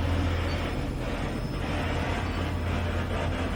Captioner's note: doomy humming